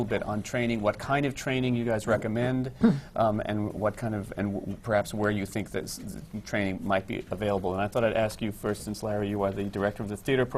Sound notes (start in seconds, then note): none